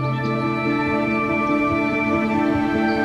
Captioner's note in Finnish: Birdsong